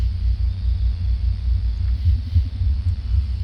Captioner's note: crickets